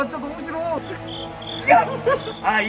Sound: cricket sound

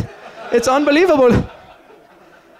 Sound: laughter

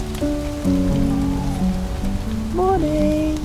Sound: tawny owl

